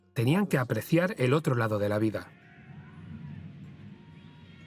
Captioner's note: screaming